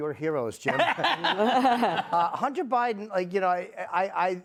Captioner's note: laughter